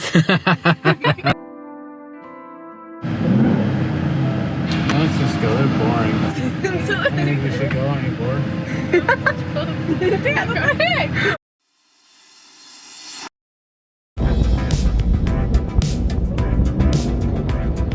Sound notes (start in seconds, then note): 0.0 man laughing; 3.2 car engine revving; 5.1 engine revving drowns out speech; 14.2 suspenseful music